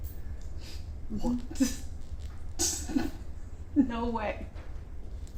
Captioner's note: chuckles